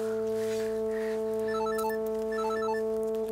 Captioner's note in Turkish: Telefon zili sesi